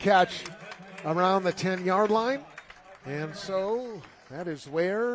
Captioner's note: applause